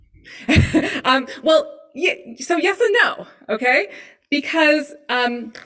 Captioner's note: laughs